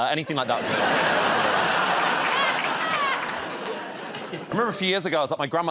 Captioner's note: laughter